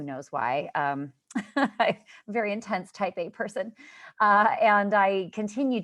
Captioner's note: laughter